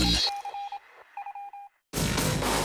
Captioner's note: digital beeping; energetic electronica music